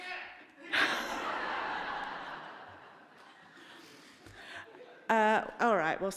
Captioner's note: audience laughing